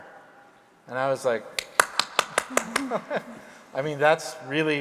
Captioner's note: applauds